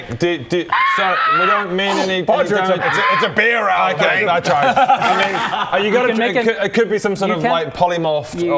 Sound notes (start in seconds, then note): 0.7 squawk!; 1.8 nom